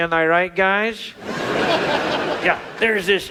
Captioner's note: audience laughs